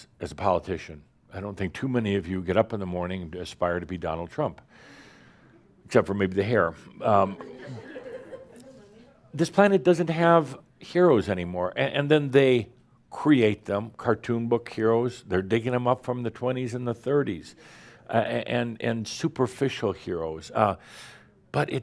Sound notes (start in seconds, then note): 7.3 a few giggles